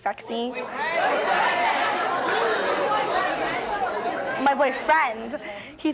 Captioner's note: audience chatters